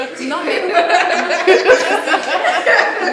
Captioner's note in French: rires